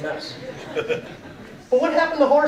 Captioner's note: audience laughing